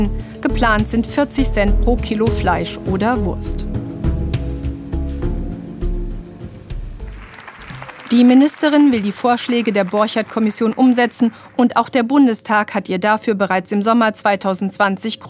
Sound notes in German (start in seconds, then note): 3.5 Lockere Musik; 7.0 Applaus